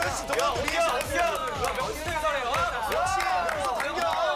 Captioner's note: everyone started clapping